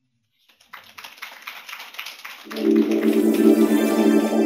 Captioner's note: applause